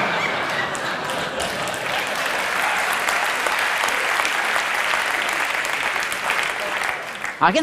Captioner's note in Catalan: Aplaudiments